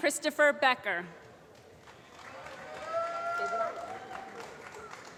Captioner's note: applause